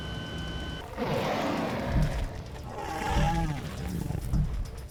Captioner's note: growling